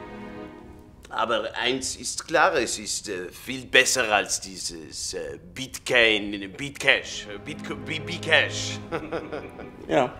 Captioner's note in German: lacht